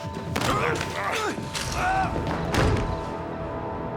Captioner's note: man grunting